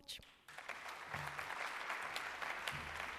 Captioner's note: applause